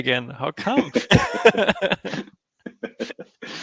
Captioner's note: laughs